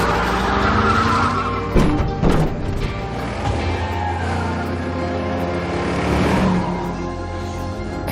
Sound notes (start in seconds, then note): 0.4 dark sentimental music playing; 1.7 thumping